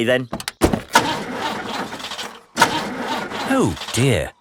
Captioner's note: engine sputtering